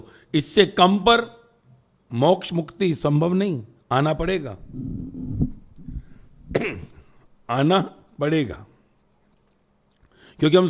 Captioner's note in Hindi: गला साफ़ करने की आवाज़